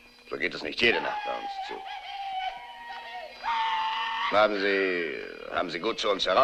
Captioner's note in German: brüllt